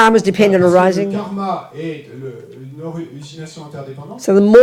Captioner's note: French